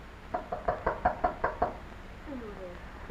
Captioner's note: knocking